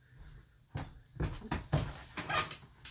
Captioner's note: footsteps; chair squeak